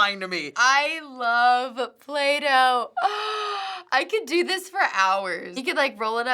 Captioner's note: gasps